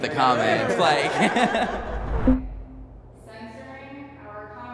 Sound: all laughing

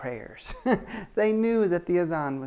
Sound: chuckles

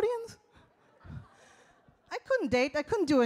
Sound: audience laughs

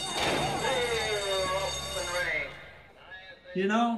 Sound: horse racing start bell rings - announcer over PA

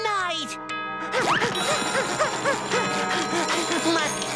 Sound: panting

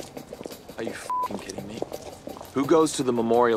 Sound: beeps

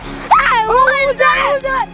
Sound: screaming

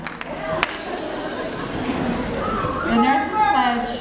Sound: audience laughing

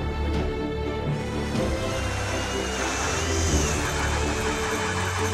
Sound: inspirational music continues; auger drilling

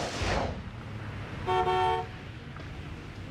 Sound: horn honks

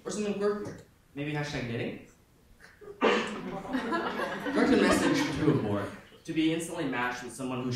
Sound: audience laughing

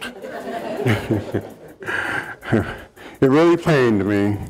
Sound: audience laughing

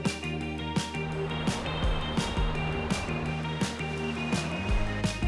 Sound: upbeat music; waves lapping

